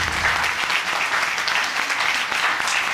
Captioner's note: audience applauds